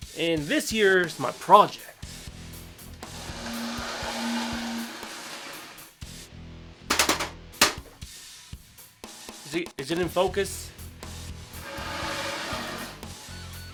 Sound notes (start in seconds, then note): 2.9 scraping wooden bench noises; 6.9 metal slappy slap slap